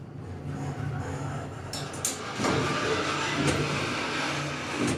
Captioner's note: mechanical sounds